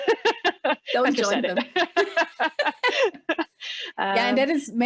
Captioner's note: laughs; laughing